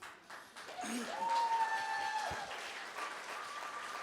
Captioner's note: cheering, applause